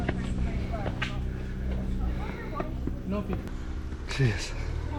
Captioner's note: footsteps plodding